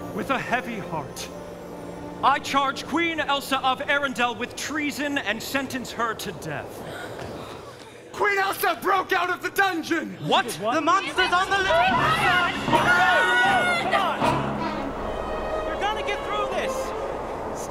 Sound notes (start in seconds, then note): 6.7 people gasping; 11.9 all talking excitedly